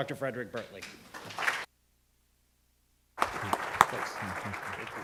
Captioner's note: audience clapping